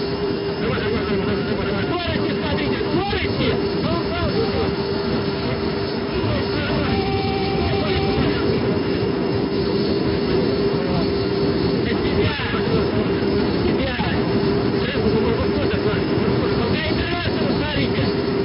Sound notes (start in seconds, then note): 4.6 angle Of Attack Warning Sound